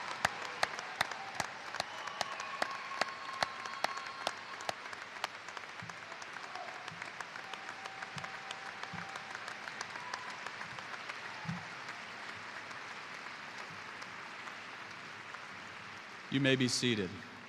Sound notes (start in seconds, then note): 3.5 applause